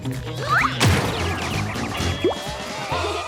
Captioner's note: Milo grunts; Tabitha laughs